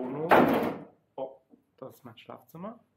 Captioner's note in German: Tür eckt an